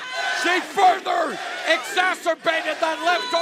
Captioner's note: fans chanting